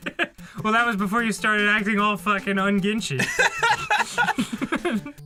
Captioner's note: laughs; laughing